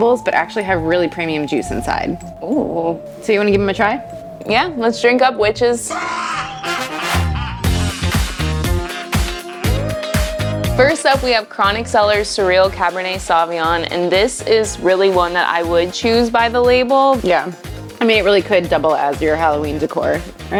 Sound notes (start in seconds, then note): 6.0 maniacal laugh; 6.2 upbeat music